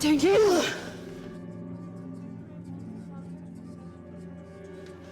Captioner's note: whispering